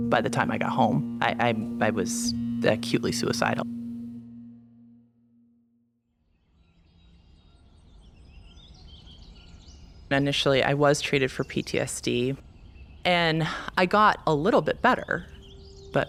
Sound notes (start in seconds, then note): 7.0 morning birds chirping